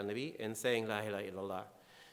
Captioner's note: speaking in foreign language